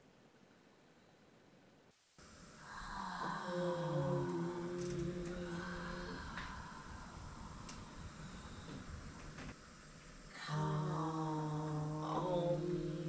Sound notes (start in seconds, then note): 2.4 sounds of sighs, 'calm' and 'om'